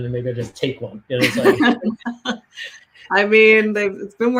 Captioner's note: laughs